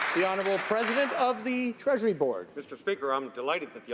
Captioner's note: some Applause